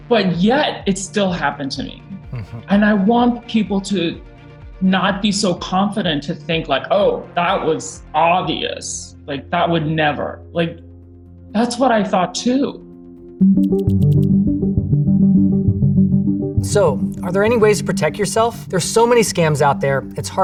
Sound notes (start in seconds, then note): 13.4 inquisitive music; 13.6 text whirring